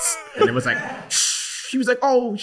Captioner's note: imitates whooshing sound